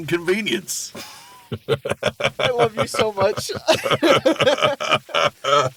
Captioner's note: laughs